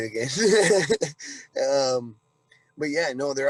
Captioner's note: giggling